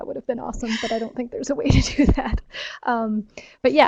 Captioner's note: chuckles